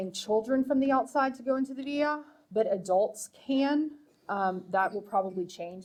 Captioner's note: speaking foreign language